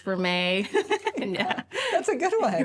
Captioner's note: laughs